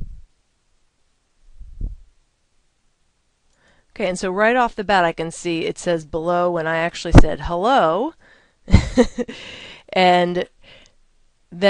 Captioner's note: laughter